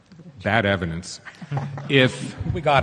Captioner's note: panelists laugh